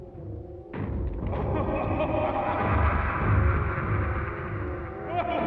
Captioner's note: creepy laughter